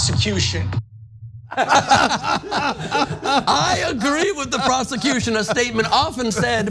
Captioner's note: laugh